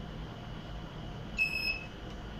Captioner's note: beeps